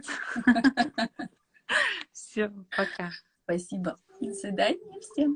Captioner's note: laugh